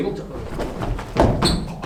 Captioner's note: scurrying